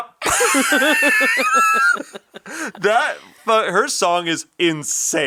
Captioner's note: everyone laughing